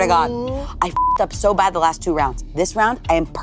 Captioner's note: beep